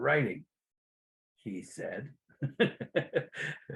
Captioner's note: giggles